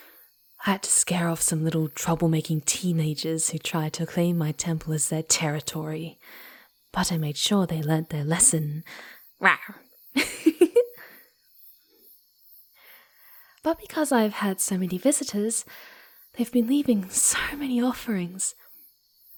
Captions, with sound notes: I had to scare off some little trouble-making teenagers who tried to claim my temple as their 'territory'. But I made sure they learnt their lesson! (mock-growling) Rrar! (Giggling) But because I've had so many visitors, they've been leaving so many offerings!